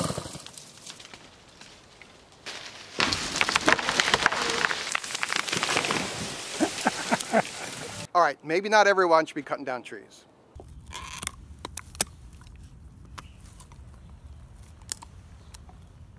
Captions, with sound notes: (crashing) Alright, maybe not everyone should be cutting down trees. (chewing)